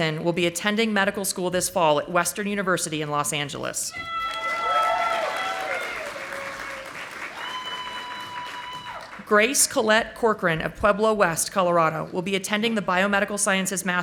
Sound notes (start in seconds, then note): 4.2 audience applauding